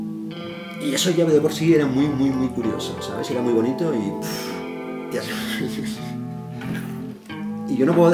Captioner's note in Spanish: Risas